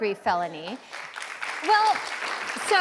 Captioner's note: audience applauds